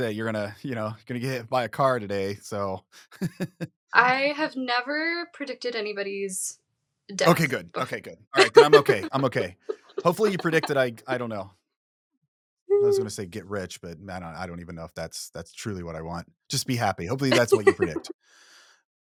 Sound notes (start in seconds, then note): 3.0 chuckles; 7.2 laughing